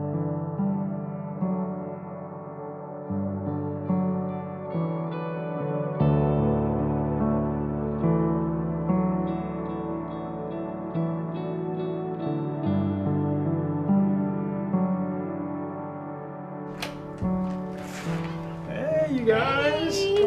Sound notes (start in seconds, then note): 16.7 door creaking